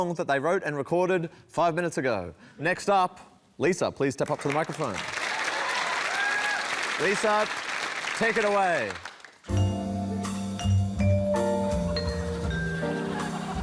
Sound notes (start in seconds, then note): 6.4 cheering, applause